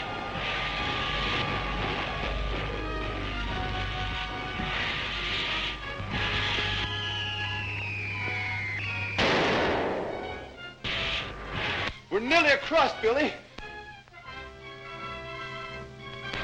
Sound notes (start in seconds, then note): 0.0 machine whirring; 9.1 device explodes